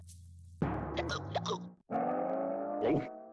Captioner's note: hiccupping